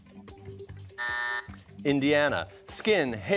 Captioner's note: buzzer